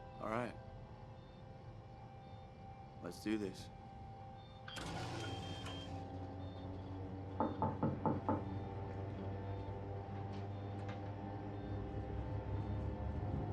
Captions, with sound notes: All right, let's do this. (device whirs and thrums) (door knocks)